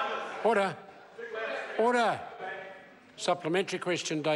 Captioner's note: members talk loudly